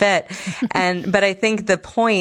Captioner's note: laughs